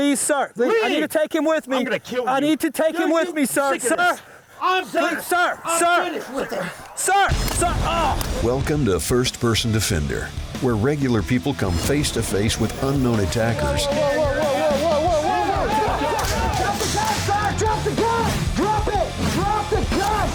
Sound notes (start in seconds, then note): 4.6 shouting over each other; 16.0 shouting